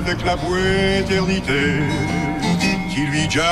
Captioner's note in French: ding! ding!